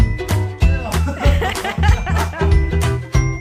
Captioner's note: they both laugh